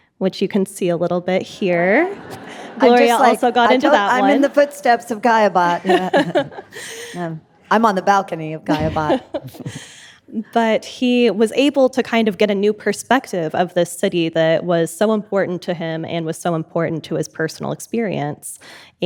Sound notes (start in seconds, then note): 1.9 audience laughing; 5.2 laughing